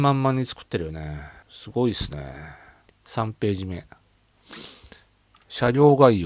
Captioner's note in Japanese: 鼻息